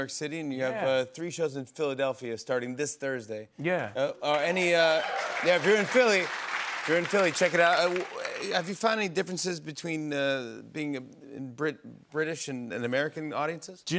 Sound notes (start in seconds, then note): 4.3 cheers and applause